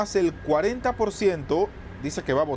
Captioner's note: HABLAN EN INGLéS